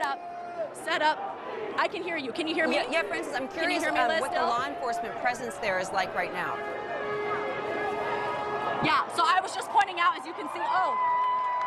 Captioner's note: siren